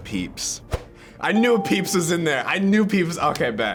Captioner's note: ding